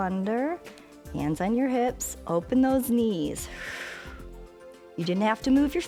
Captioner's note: exhales